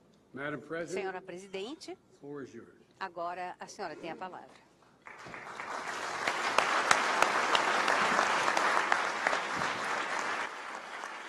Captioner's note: applause